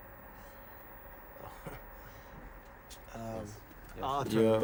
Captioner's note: chuckles